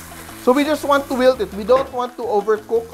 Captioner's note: sizzle